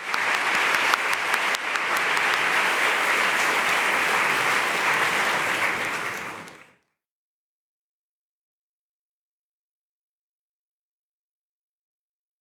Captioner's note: applause